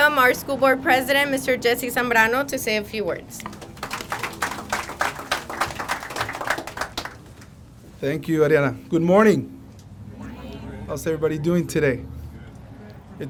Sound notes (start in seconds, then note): 3.4 crowd applauding